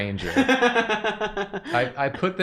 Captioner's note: laughs